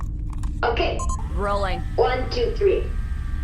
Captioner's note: camera beeps and starts whirring